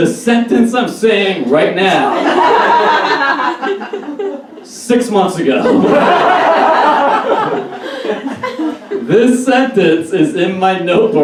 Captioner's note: audience Laughs